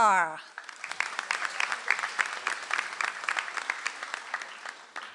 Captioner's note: audience applauds